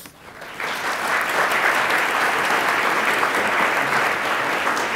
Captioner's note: attendees applaud